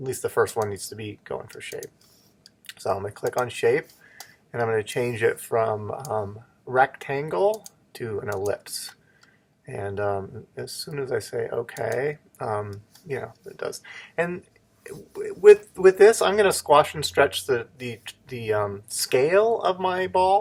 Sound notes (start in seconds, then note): 11.1 click